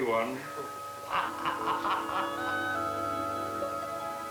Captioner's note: laughs